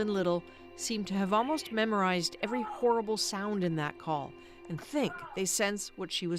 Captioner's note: screaming